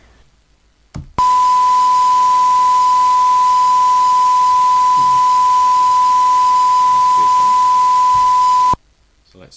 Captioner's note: 1Khz tone